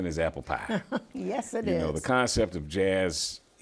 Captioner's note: laughs